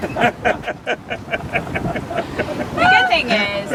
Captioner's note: people laugh